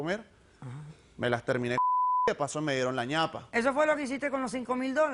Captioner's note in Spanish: Bip